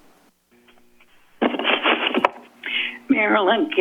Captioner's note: static sound